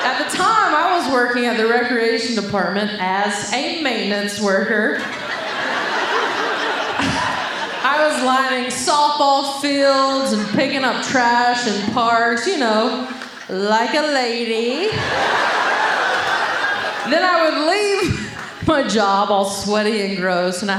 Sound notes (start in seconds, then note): 4.9 audience laughing; 14.8 audience laughing